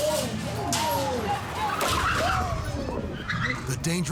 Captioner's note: car squeals